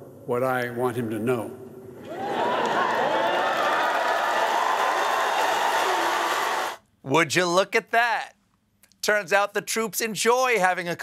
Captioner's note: applause